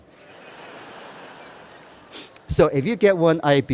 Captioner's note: laughter